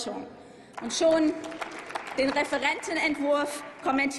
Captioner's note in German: Applaus